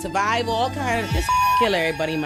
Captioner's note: beep